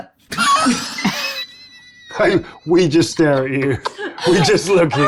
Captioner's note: laughs